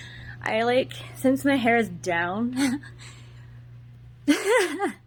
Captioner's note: laughs; giggles